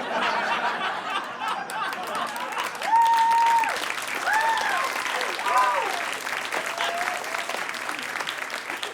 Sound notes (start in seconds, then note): 0.0 audience laughs uproariously; 1.2 audience cheers and applauds